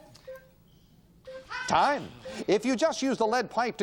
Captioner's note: beep